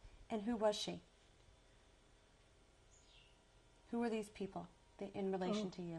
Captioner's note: pauses for 3 seconds